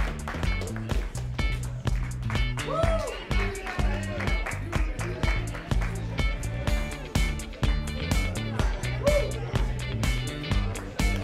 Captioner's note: applause